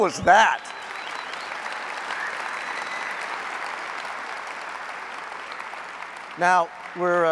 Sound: applause

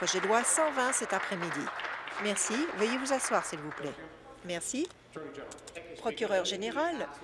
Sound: applause

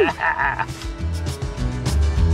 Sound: laughing; upbeat country music

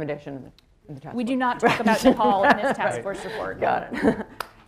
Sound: laughter

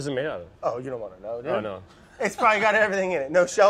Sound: laughs

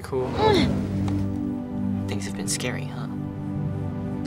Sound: Clementine grunts

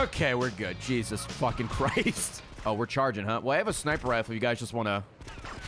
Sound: laughs

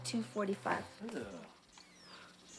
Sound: groaning

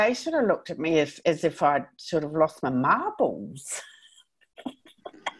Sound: laughing

